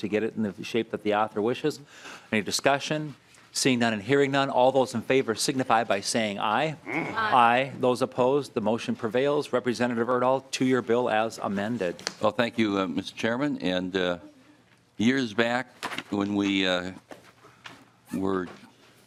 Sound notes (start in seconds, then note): 6.9 chorus of ayes